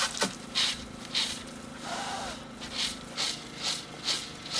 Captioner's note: sifting and blowing